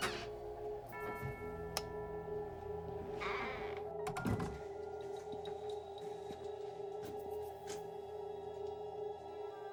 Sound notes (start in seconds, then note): 0.1 door creaks; 4.5 door thuds